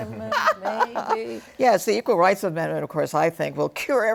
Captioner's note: laughter